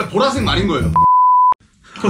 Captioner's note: beep